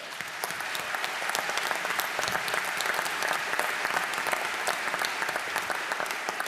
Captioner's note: applause